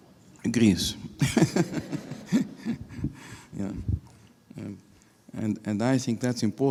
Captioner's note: laughing